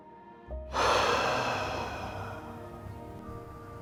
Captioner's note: deep Exhale